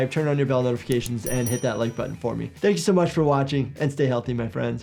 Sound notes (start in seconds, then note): 1.0 bell dings